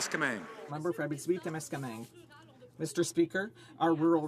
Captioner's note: some Applause